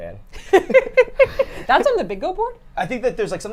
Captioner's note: laughing